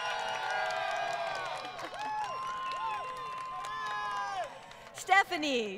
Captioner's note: crowd Cheering & Applause